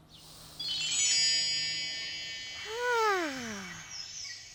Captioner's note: gentling chiming